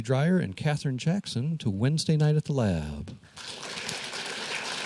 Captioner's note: applause